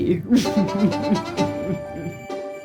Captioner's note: chuckles